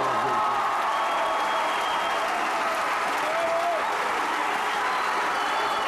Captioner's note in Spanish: Aplausos-ovación